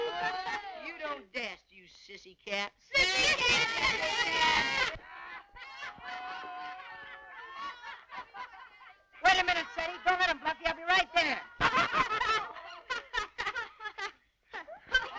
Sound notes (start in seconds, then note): 0.0 laughter; 5.1 laughter; 11.2 laughter